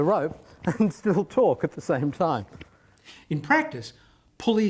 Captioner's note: laughs